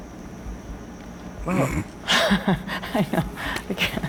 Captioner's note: laughing